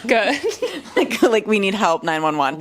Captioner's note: laughs